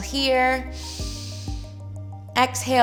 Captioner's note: inhales